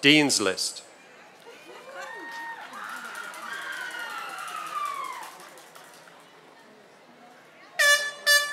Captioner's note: applause